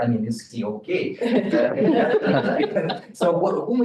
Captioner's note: all laughing